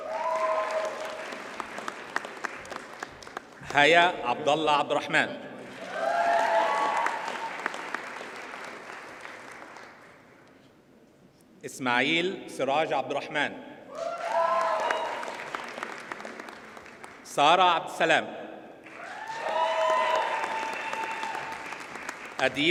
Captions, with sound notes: (audience cheers and applauds) Haya Abdulla Abdulraham. (audience cheers and applauds) Ismael Siraj Abduraham. (audience cheers and applauds) Sarah Abdussalam. (audience cheers and applauds)